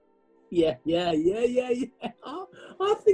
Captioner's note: laughs